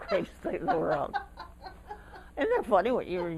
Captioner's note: laughter